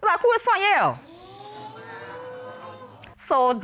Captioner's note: audience exclaiming